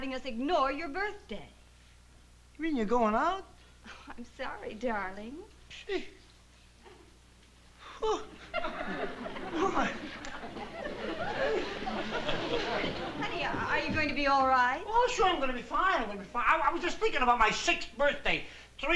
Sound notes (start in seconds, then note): 5.5 scoffing